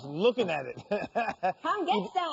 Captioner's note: laughing